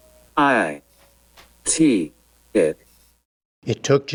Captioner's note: through electronic voice